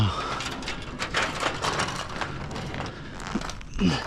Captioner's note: fence rattling; groaning